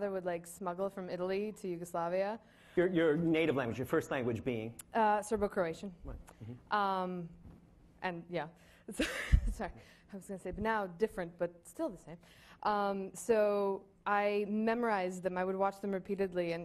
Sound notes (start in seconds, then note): 8.3 laughing